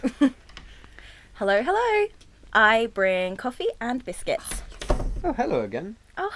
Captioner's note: door opens and closes